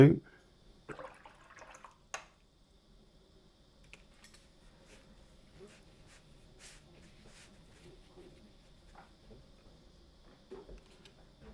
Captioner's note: silence